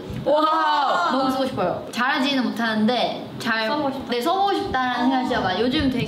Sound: speaking in Korean

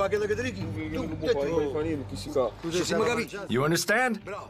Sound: speaking in Italian

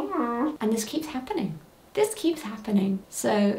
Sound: groaning

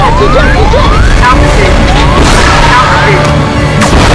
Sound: automated voice

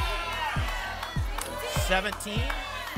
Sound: audience shouting numbers

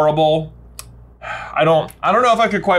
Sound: sighs

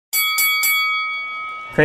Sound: boxing match bell sounds

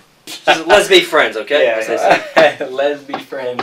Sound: laughter

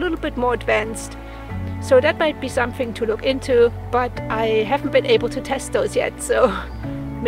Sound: laughs

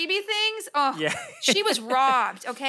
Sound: laughs

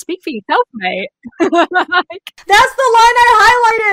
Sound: laughs

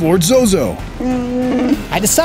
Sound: Chewbacca growls

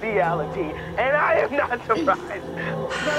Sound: laughing

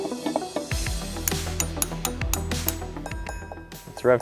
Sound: tapping metal

